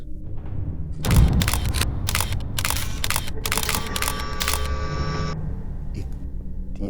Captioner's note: soft ominous music; camera clicking